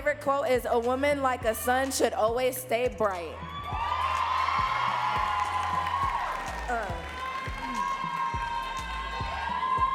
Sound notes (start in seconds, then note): 3.4 audience cheering and clapping